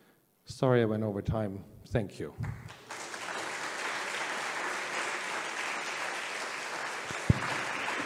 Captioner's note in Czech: Potlesk